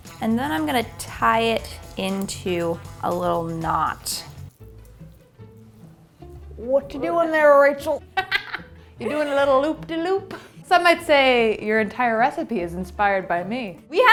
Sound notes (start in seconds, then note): 4.7 playful music; 8.0 laughs